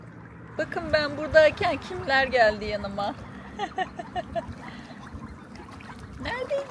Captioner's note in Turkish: kahkaha